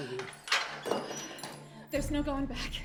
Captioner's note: lock clanking